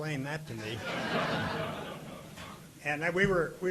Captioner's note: audience laughing